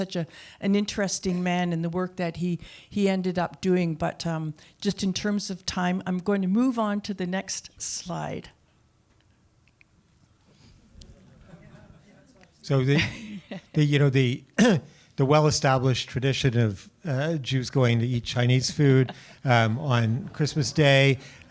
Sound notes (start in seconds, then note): 12.9 laughter